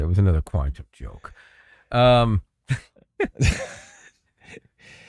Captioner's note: laughing